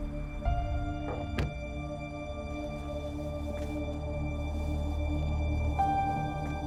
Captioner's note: resonant music continues; car door shuts; steps onto pavement; resonant music continues